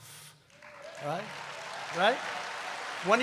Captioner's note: applause